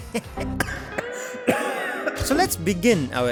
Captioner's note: cough cough